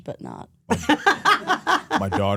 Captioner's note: Stephanie laughs